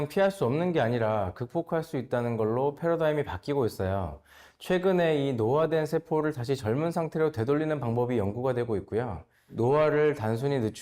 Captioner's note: voiceover